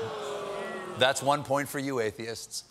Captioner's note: audience reacts